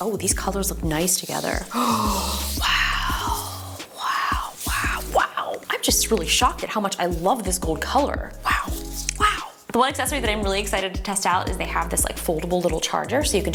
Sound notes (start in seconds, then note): 1.6 gasps